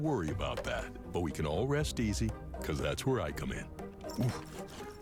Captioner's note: woof!